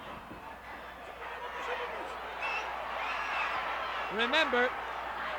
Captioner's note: crowd yelling